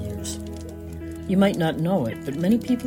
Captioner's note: AMBI: campfire chatter